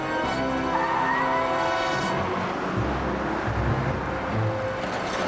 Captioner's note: tires screeching